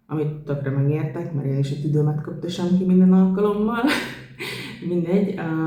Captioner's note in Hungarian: nevetés